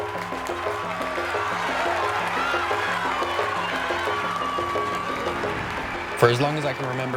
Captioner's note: audience cheers and applauds; gentle upbeat music; crowd cheers and applauds continue